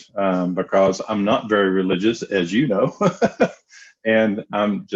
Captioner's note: laughs